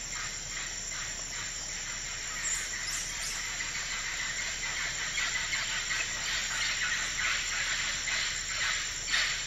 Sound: forest sounds

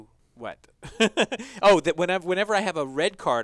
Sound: laugh

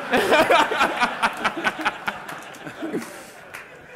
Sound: laughter

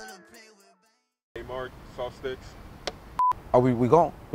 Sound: digital beep

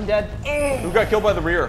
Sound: very sexual moaning

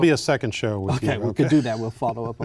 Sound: laughter

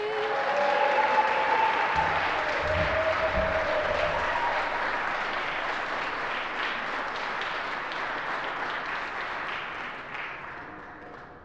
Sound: applause

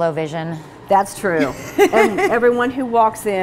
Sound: laughing

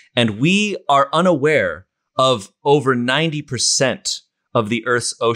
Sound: none

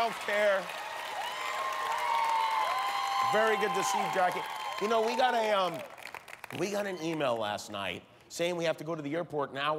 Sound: cheers and applause

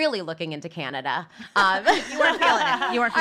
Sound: laughs

